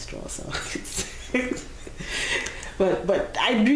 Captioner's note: laughing